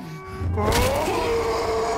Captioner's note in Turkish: Kemik Kırılma Sesi